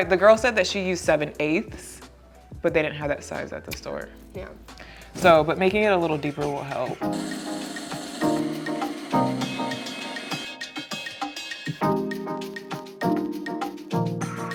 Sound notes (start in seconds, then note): 7.1 drill whirring; 7.5 mellow music